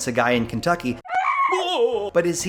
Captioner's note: screams